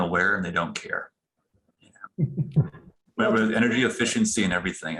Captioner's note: laughter